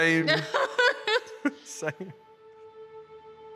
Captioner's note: laughs